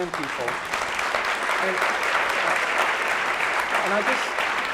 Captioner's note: applauding